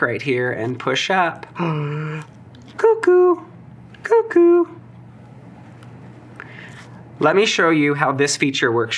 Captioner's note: gasp